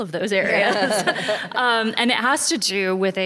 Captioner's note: laughter